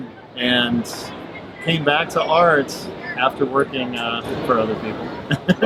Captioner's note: laughs